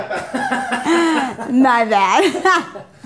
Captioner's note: gently laughs